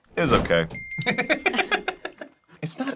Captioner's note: laughs